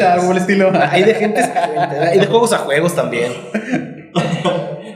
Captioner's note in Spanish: risas